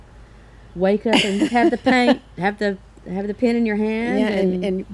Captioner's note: laughs